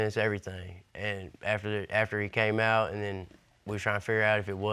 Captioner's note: none